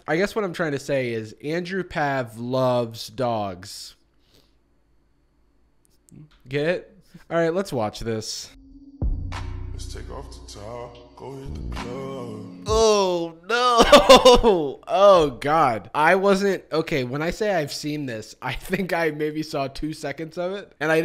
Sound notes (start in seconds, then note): 4.3 smug silence